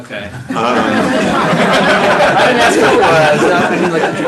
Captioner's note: laughing